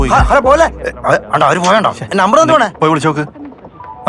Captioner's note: indistinct chatters